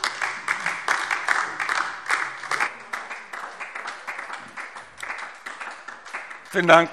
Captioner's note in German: Beifall DIE LINKE